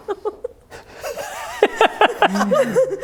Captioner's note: laughing